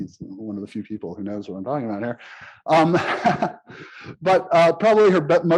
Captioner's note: laughs